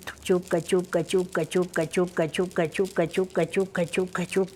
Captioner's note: chanting in Quechua